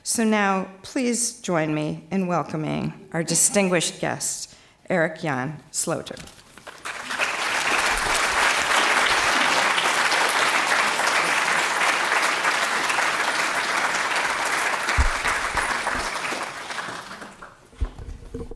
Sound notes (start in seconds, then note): 6.8 applause